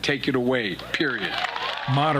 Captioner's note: cheering and applause